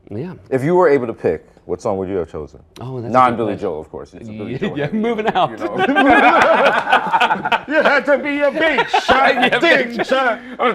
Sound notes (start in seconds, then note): 4.6 laughter; 7.4 singing